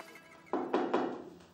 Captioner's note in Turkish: Kapı sesi